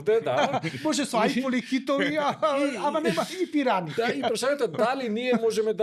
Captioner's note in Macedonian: смеа